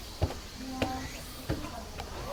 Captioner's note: footsteps on stairs